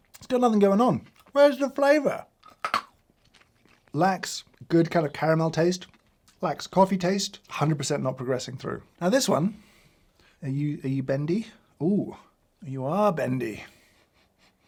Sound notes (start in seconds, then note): 2.2 crunching on candy